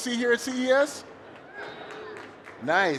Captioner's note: cheering